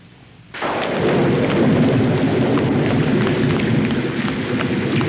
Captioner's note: thunder cracking